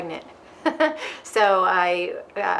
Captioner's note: both laughing